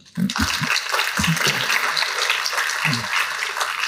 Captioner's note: applause